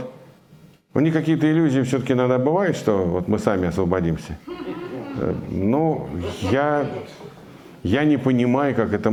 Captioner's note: laughter in the audience